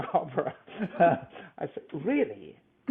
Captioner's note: laughs